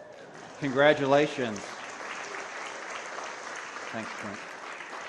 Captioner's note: applause